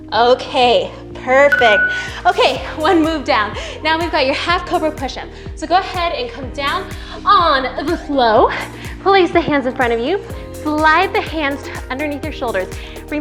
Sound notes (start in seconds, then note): 1.5 timer beeps